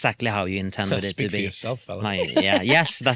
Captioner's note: laughing